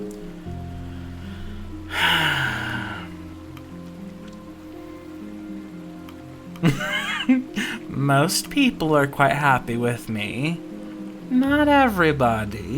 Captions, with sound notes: [Sigh] [Laughter] Most people are quite happy with me. Not everybody.